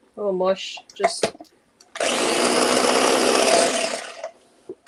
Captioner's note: blender whirling